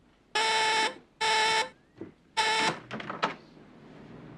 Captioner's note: doorbell buzzing